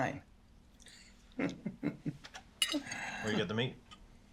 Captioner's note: Sean chuckles